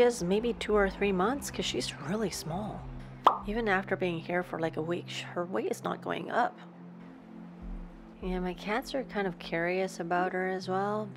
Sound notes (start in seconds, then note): none